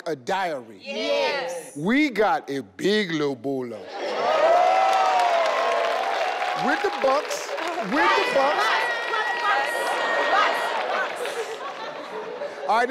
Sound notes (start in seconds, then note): 4.3 everyone claps